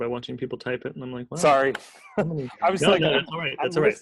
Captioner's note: laughs